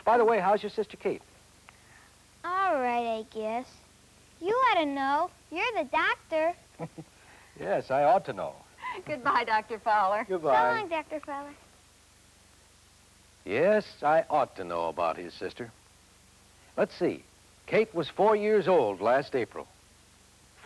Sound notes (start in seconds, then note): 8.8 laughs